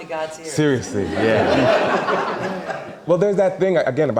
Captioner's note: audience laughing